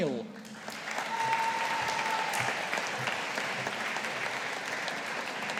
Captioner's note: audience applauding